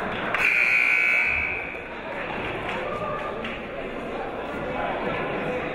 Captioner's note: buzzer blaring; chattering